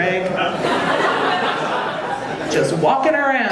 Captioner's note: audience laughing